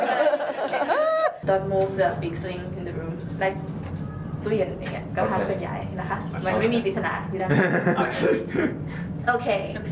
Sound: speaking Thai

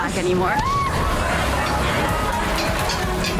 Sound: shrieking; metal clanging; urgent music

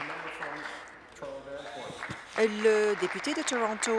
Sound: applause

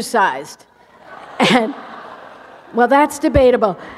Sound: laughter

